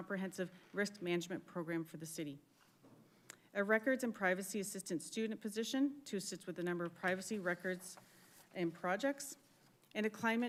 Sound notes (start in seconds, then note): none